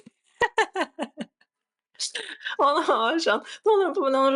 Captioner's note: laughter